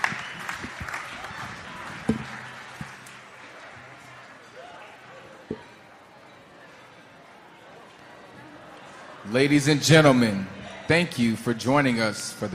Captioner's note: applause